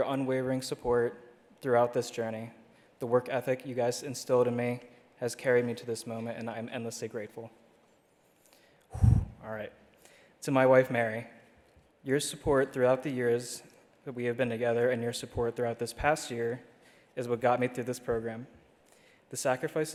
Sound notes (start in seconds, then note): 8.4 exhales